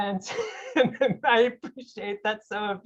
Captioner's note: laughs